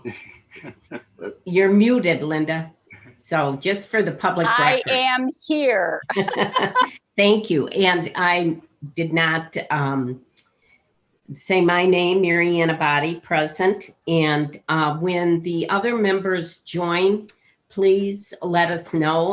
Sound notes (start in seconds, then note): 0.5 laughing; 6.0 laughing